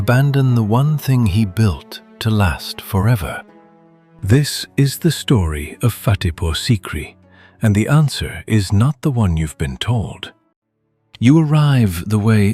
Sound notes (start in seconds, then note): 10.2 thoughtful